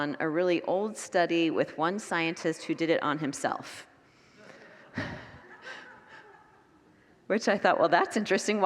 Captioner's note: congregants laugh